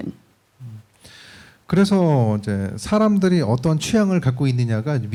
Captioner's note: speaking korean